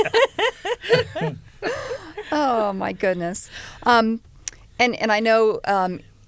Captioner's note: laughter